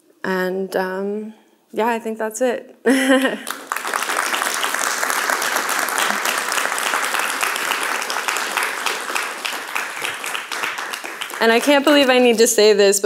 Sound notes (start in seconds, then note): 2.8 giggles; 4.4 audience clapping